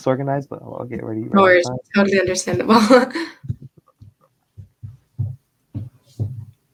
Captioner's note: laughing